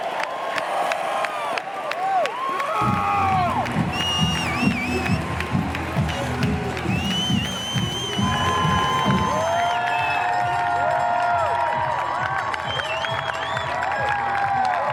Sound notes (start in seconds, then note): 4.7 whistling and cheers and applause